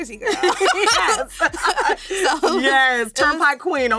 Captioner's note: laughs